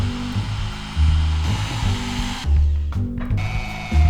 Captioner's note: drill whirs